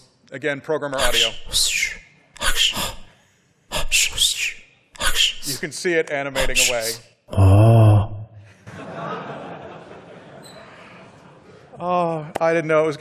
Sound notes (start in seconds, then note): 2.4 breathing sounds; 8.4 laughter